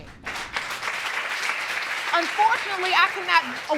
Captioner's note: crowd clapping